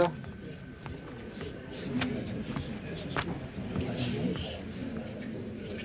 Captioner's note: overlapping chatter